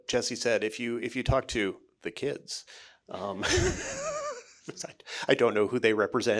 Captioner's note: chuckling